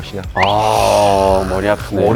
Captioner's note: worried